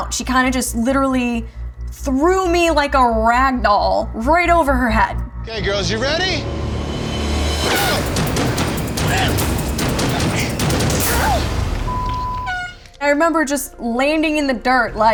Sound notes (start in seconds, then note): 7.4 dramatic music; 9.7 exciting dramatic music; 12.2 beeping